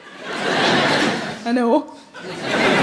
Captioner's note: audience laughing